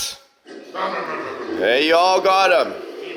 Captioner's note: all imitating engines